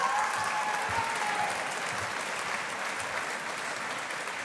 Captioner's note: audience applauding